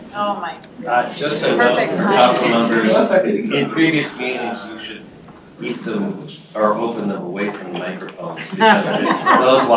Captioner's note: laughter